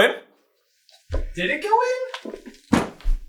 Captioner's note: disbelieving